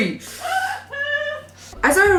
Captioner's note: laughter continues with mirth